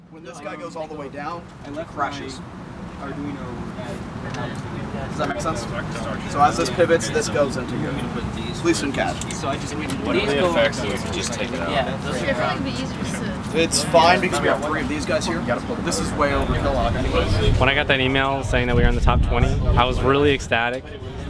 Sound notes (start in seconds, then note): 8.6 many people talking